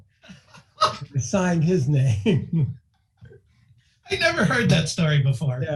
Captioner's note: laughing